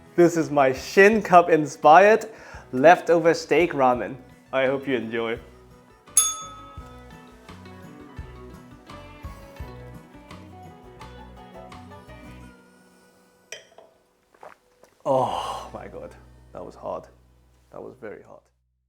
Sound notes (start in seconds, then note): 6.1 bell rings